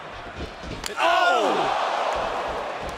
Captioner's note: crowd cheering